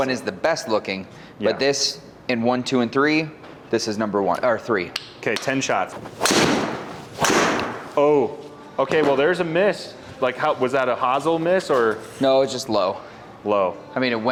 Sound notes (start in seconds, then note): 5.9 club swishing and clicking; 5.9 hand on club slapping; 5.9 impact of ball thudding